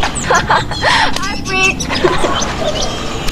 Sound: laughing

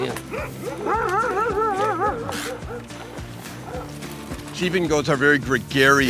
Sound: dogs barking

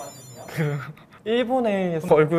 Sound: laughing first

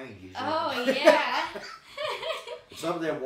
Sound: both laughing

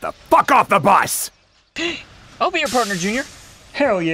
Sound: gasps happily

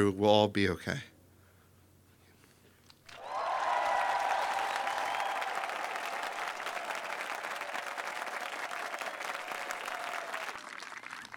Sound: applause

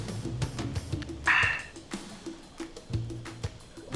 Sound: sighs

